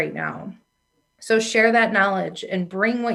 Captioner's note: none